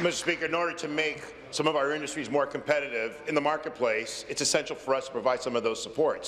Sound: applause

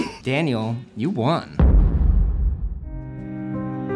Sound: laughs; explosion echoes; somber music

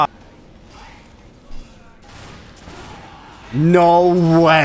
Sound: guns firing

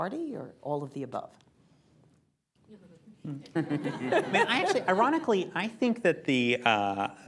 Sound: laughter

